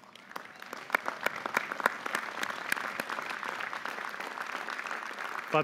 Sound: audience applauding

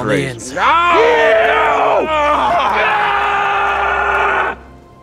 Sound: both scream

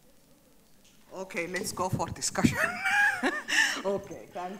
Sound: speaks off microphone; chuckles

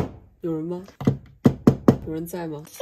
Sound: knock knock knock

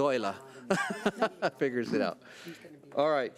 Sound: laughs

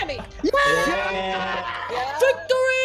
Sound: laughing; all shout

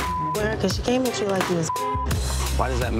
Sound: beeps

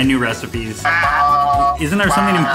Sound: shouting

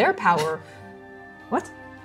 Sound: scoffing

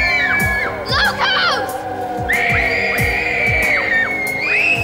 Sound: screaming; wolf howls continue; screaming; wolf howls continue

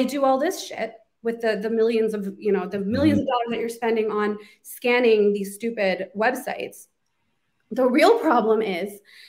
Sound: beep

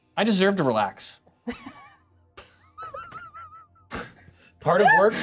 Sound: co-hosts laughing

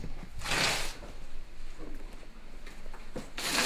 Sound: boxes dragging

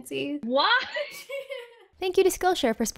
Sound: laughs

